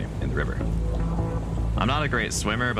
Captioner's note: water rushing